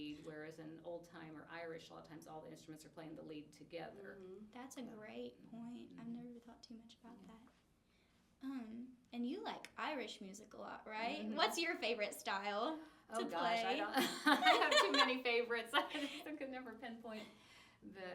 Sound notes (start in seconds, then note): 13.9 laughs